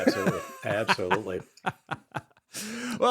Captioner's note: laughing